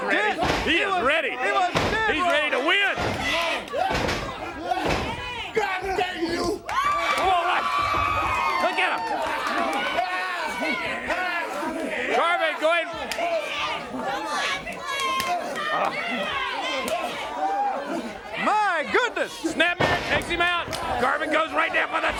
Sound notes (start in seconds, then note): 4.4 crowd chatter; 8.3 crowd cheering